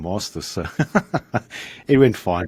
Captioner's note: giggles